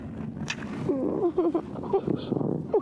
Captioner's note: crying